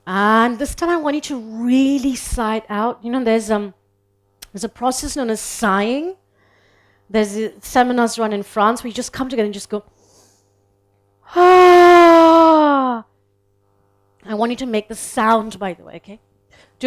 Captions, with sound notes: And this time, I want you to really sigh it out. You know, there's a process known as sighing. There's a seminar that's run in France, where you just come together and you just go. (sighs loudly) I want you to make the sound, by the way, okay?